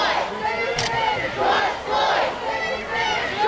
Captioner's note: crowd